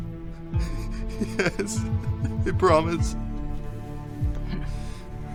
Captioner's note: sobs